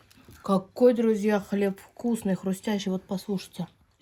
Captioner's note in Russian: Хруст